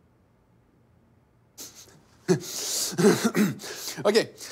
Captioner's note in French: rire et raclements de gorge